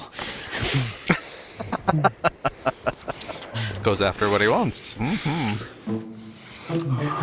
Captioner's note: laughing